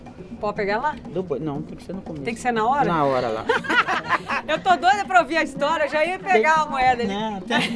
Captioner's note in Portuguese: risos